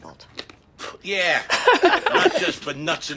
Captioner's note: Frank blows out air